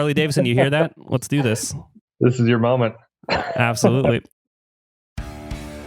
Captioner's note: laughs